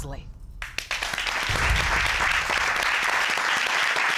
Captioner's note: applause